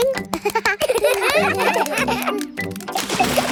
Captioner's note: children laugh